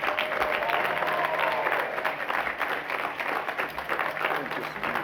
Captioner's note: applause